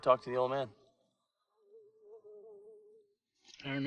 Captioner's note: fly buzzing